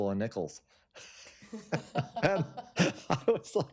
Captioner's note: laughter